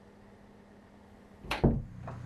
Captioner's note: door closing